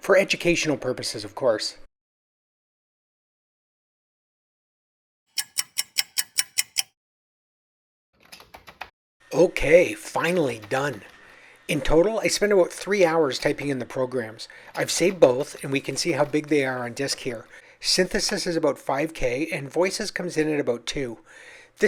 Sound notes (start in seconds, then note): 5.3 sound of a ticking clock